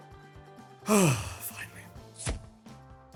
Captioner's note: sighs again